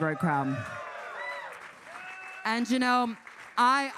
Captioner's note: audience cheering